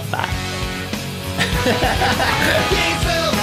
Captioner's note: laughing